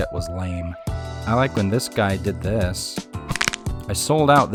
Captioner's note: crack